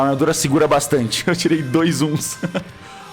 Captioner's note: chuckles